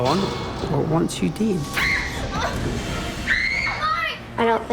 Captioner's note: screaming